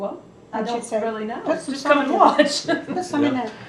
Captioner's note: laughs